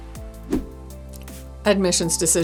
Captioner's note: air whooshing